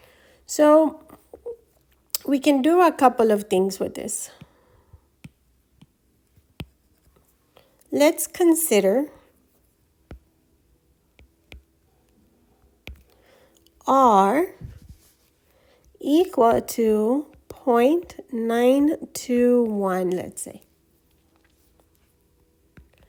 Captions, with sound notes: So we can do a couple of things with this. Let's consider -- [ Writing Sounds ] R equal to .921 let's say.